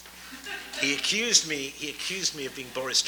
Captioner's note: audience laughs